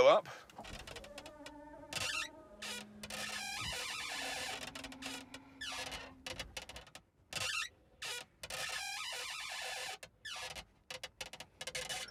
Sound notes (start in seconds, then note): 0.2 whirring; 2.8 squeaking; 7.6 squeaking continues